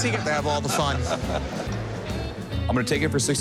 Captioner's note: laughs